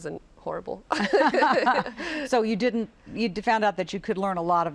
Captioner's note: laughter